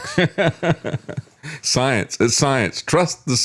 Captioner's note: laughs